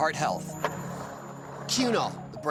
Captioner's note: skateboard wheels roaring